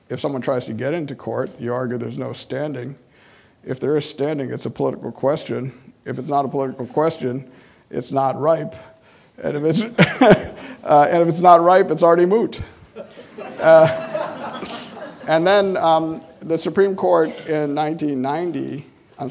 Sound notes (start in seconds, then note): 9.8 laughing; 12.9 audience laughing